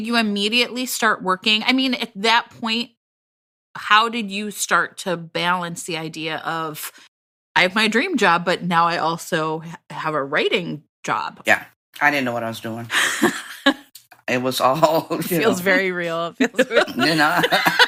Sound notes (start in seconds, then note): 12.9 she laughs; 16.4 laughter